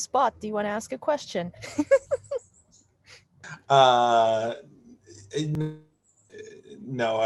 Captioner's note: laughs